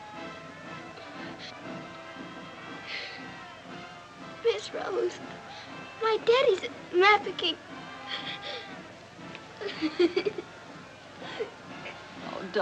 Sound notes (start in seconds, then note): 2.6 quiet weeping; 7.9 sobbing